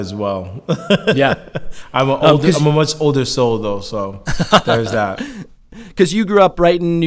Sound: laughs

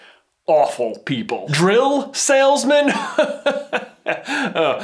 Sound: laughing

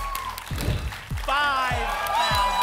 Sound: whoosh

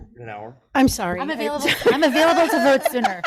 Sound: group laughs; laughs

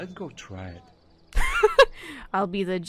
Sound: laughs

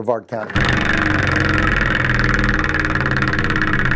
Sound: wheel spinning

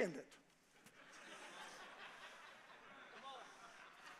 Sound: congregation laughs

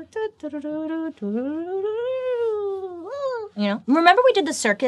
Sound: trilling

